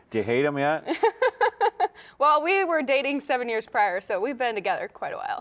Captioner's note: laughs